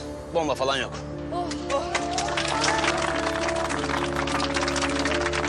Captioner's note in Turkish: herkes alkışlıyor